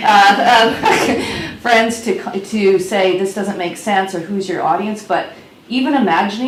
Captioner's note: laughs